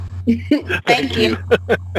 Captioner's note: laughs